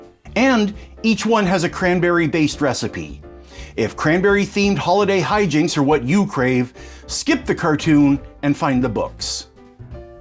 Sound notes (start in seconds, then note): none